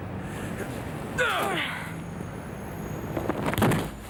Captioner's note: John and Jodie grunt; dummy smacking ground